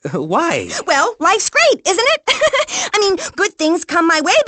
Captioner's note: laughs